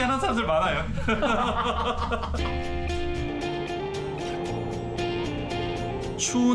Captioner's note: laughter